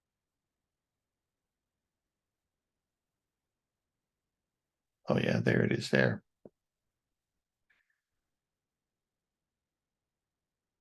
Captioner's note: silence